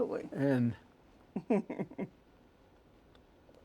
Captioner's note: laughs